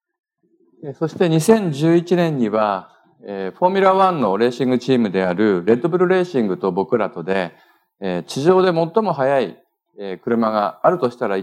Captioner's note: speaking japanese